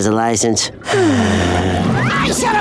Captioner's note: sighing